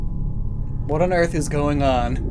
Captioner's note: ominous rumble